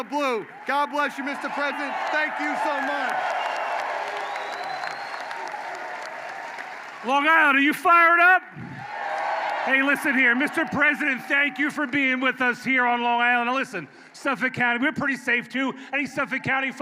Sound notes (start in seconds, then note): 5.1 applause